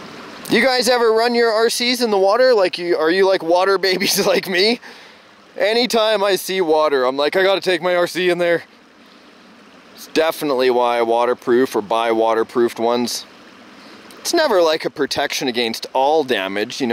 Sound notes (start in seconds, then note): 4.0 chuckling